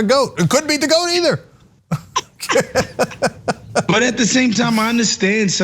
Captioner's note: laugh